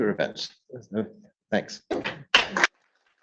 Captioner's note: audience applauding